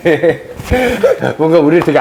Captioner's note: giggling